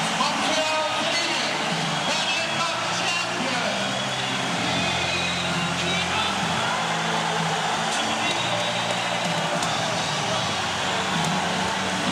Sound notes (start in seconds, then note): 0.0 cheers and applause